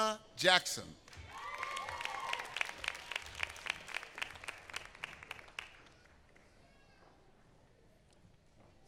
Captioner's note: applause